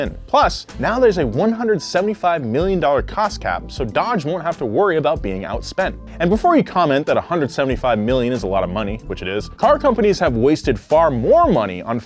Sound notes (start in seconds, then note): none